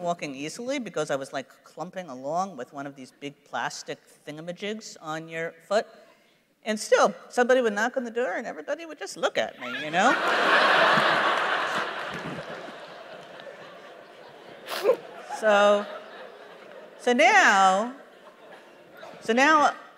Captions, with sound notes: because I was like clumping along with one of these big plastic thingamajigs on your foot. And still, somebody would knock on the door, and everybody would just look at me, you know? [laughter] So now, so now it's not my job anymore,